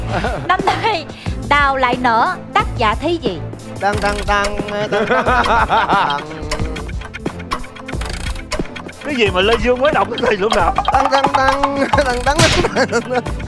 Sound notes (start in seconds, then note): 4.8 laughing